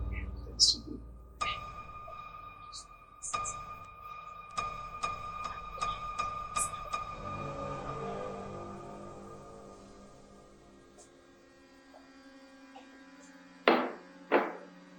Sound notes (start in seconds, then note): 3.4 whispering; 6.9 unsettling Music